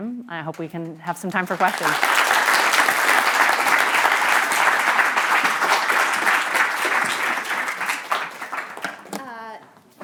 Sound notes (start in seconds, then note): 1.3 applause and cheering